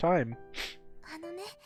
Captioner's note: crying